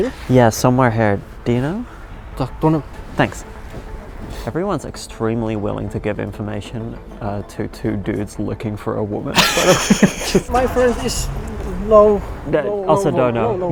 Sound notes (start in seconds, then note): 2.6 person speaking in foreign language; 9.3 both laughing